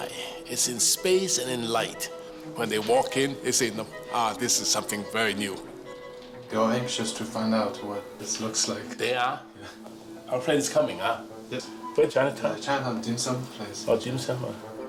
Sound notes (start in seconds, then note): 6.0 man speaking English